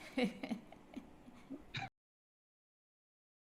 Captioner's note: chuckles